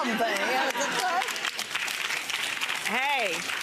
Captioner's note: clapping